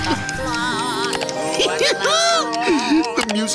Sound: laughing

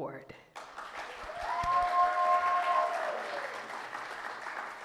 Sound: audience clapping and cheering

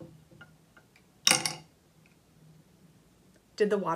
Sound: rock clatters

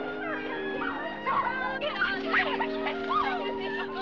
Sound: squealing, Giggling

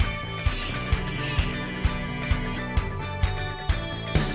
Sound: reel buzzing

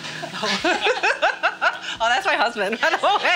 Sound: laughing

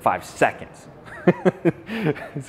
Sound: laughs

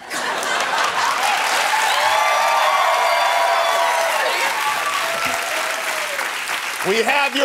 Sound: cheering and applause

